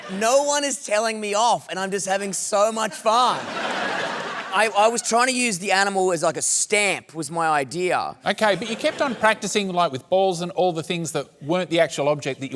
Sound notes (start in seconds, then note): 2.8 laughter